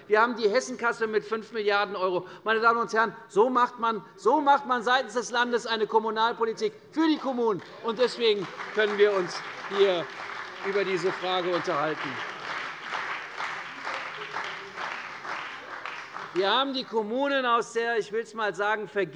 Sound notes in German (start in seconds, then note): 11.9 Beifall bei der CDU und dem BÜNDNIS 90/DIE GRÜNEN